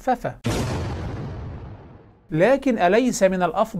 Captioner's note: sound effect